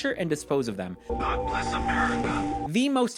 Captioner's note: whispering